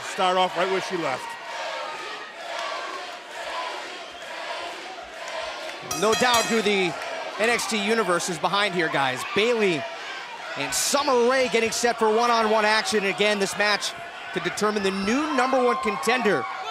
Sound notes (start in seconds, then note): 4.9 fans chanting